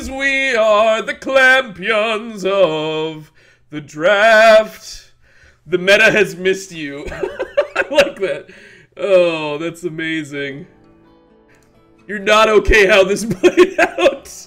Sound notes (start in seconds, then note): 7.0 laughs